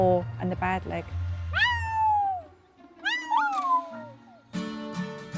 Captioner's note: Ollie and Bear howl